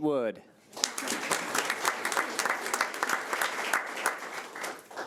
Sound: audience applauding

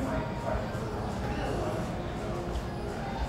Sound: chatter

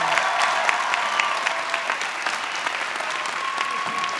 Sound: audience applauds

